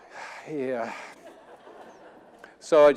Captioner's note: audience laughing